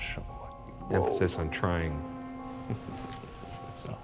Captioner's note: chuckles